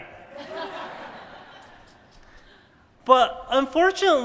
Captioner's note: laughter